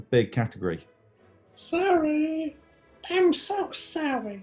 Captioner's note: crow-like voice